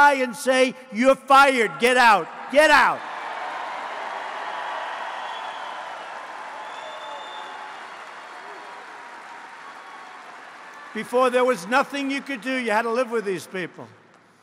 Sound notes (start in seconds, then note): 2.9 applause